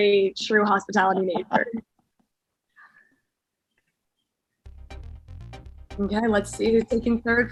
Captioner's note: laugh